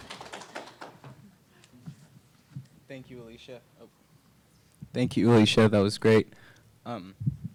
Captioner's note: applause